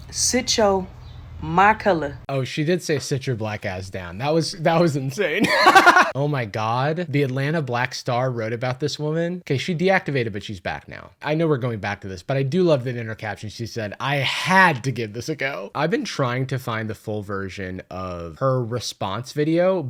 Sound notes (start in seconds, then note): 5.3 laughs